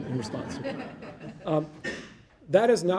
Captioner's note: audience laughing